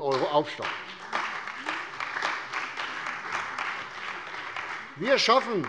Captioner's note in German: Beifall bei der CDU und dem BÜNDNIS 90/DIE GRÜNEN